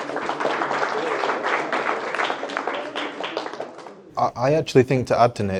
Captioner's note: attendees clapping